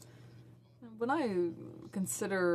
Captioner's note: speaking in french